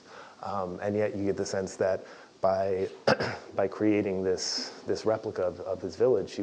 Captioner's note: cough